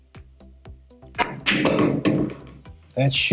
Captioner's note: pool balls clacking and thudding